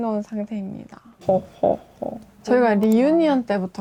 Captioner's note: hehehe